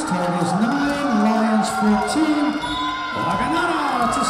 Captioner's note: whistle blowing